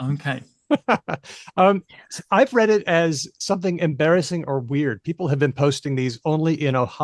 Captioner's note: laughs